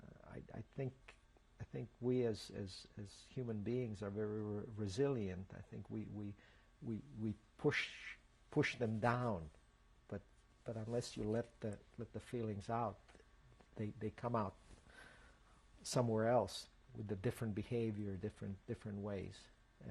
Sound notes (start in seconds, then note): none